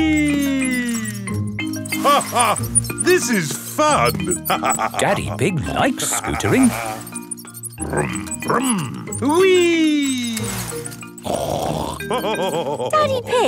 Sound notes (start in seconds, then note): 2.4 laughs; 11.6 snorts and laughs